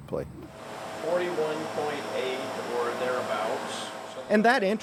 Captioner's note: machine whirs